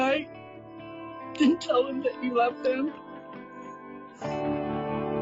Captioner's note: sobs; instrumental music